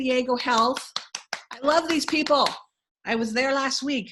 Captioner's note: clapping